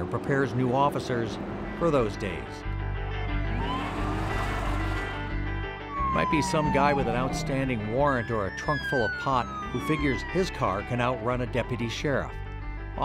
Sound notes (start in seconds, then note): 3.1 lively music; 3.1 sirens wailing